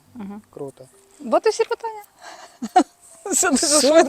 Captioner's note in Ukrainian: сміх